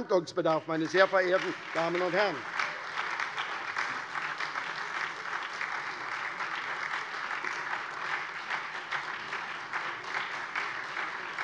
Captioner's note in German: Lebhafter Beifall SPD, vereinzelter Beifall DIE LINKE